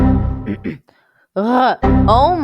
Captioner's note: clears throat again